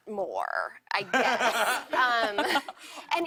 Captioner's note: laughter